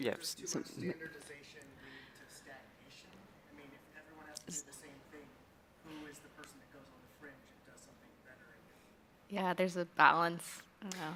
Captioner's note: off microphone